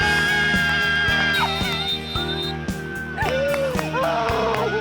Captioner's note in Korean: 호루라기 소리